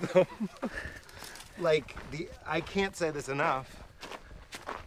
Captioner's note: laughs